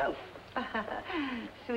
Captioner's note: Mrs. Forbes chuckling